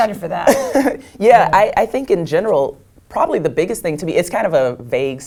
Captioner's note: laugh